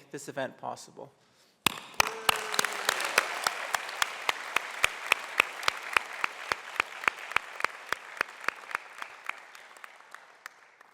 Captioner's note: applause